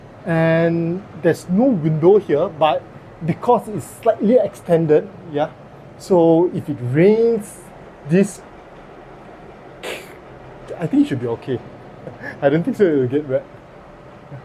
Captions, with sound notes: And there's no window here but because it's slightly extended. So if it rains, this (washing machine/dryer)... I think it should be okay. I don't think so it'll get wet.